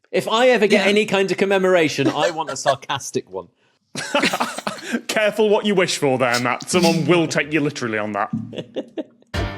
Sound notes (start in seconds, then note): 4.0 laugh; 8.6 giggles